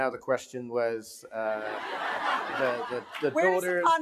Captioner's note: laughing